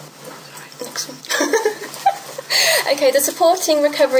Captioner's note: laughs